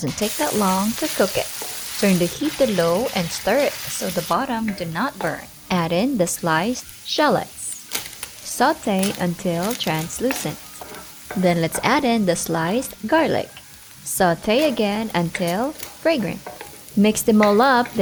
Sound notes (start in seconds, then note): 7.8 oil sizzling; 10.5 laddle thudding; 14.3 sizzling